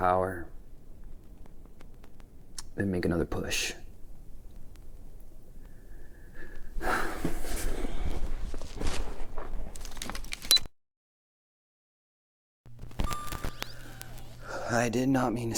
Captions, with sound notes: save some power, and make another push. (Pete sighs) (camera beeps)